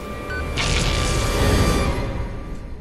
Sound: electro-shock crackle

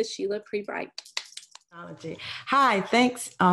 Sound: clapping

